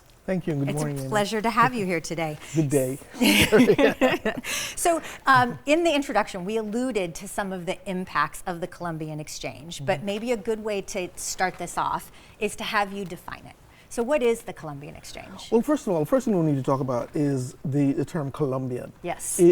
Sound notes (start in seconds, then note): 2.9 both laugh